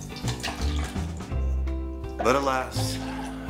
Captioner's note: Jell-O trickles